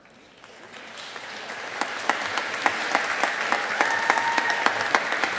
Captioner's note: audience applauding